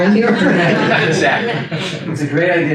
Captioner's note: attendees laugh